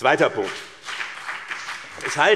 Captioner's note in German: Beifall BÜNDNIS 90/DIE GRÜNEN, vereinzelt CDU, SPD und DIE LINKE